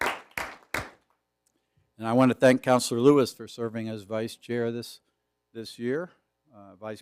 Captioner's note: applause